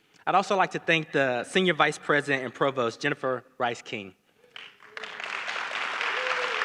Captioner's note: applause